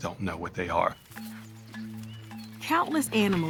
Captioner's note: birds chirping